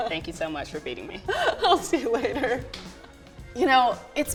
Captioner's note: laughs